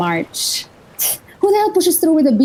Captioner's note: pffts